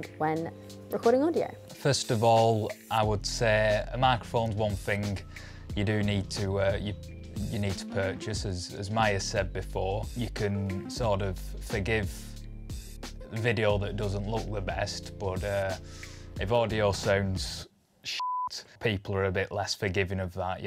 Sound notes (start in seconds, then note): 18.2 beep